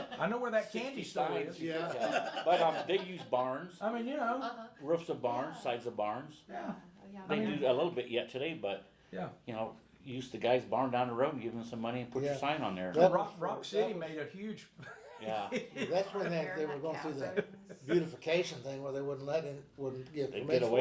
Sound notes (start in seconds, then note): 14.8 laughs